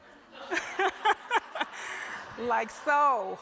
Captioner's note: laughter